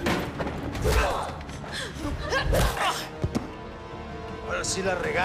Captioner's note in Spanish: Disparo; Gritos y quejidos